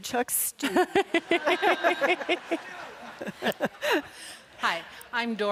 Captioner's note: audience laughs